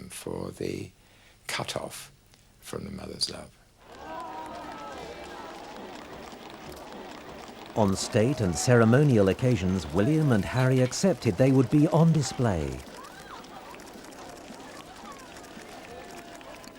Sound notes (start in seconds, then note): 4.0 crowd applauding; 4.0 crowd chattering